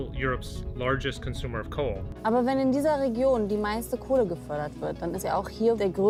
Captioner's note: speaking in foreign language